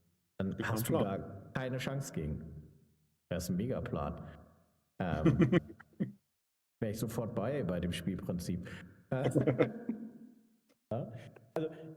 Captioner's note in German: gelächter